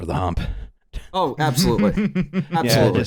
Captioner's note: chuckles